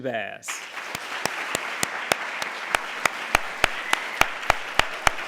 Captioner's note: applause